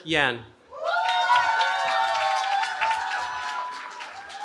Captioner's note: cheering